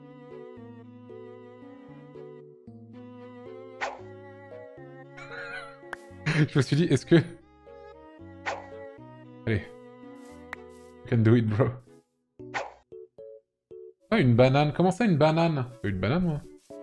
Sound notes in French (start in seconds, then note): 3.7 bruit de lancer; 5.2 petit rire